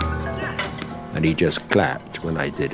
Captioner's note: sound of tennis balls being hit